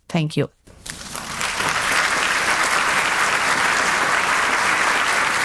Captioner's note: audience applauding